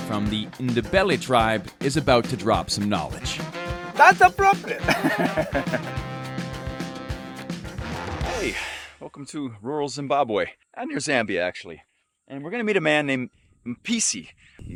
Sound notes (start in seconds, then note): 4.0 laughing; 6.3 upbeat music